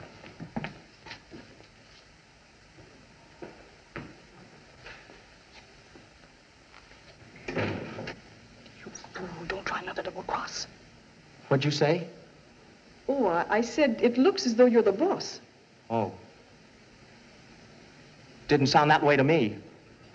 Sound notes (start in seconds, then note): 7.3 door Closes; 8.2 whispering